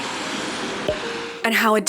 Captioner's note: cork pop